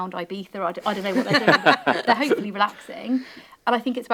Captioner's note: panel laughing